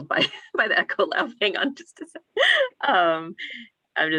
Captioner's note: laughing